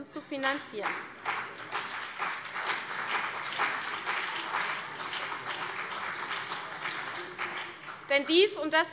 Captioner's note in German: Beifall CDU